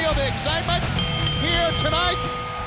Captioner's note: bell rings